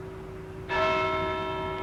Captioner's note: clock strikes